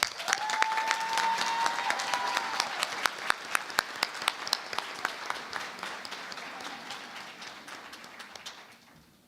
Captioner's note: cheering and Applause